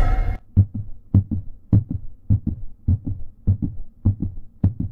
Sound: dramatic music; rhythmic beating

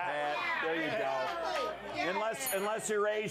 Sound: bell Rings

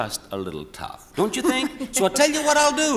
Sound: laughs

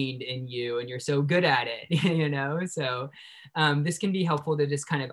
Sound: chuckles

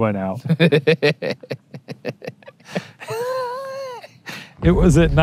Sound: laughing

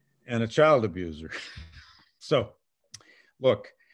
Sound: laughs

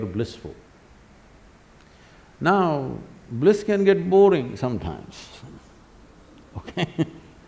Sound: laughs

